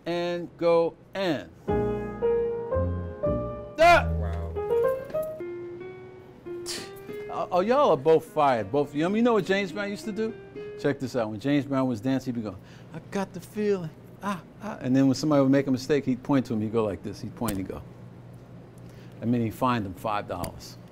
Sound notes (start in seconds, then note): 3.8 scoff